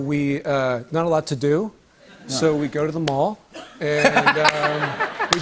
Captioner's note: laughs